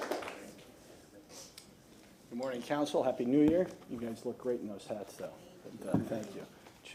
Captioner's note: applause